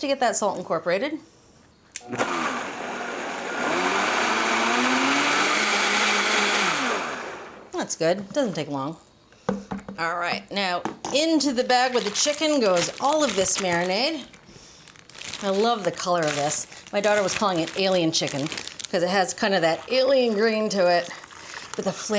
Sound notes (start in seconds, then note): 2.0 blender whirring